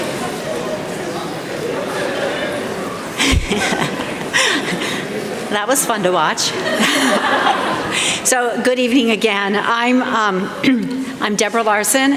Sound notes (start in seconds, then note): 6.5 laughter